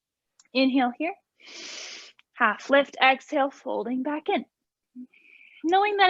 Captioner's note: inhaling